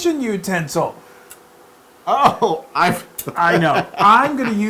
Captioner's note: laugh